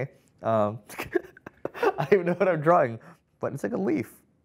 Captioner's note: laughs